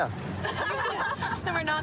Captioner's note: laughter